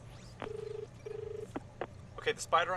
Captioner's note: call connecting; dial tone